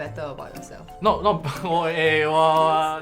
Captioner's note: stammering